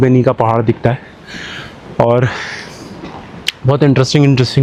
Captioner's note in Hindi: अचानक ज़ोर से सांस लेने की आवाज़